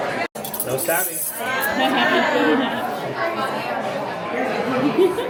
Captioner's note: sound of cutlery; laughter